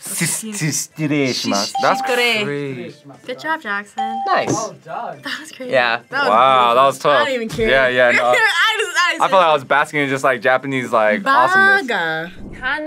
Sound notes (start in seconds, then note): 4.0 bell rings; 8.5 laughs